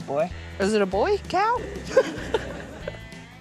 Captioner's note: laughs